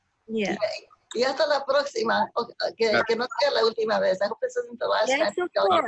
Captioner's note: speaking spanish